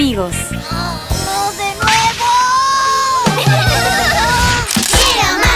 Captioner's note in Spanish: Risas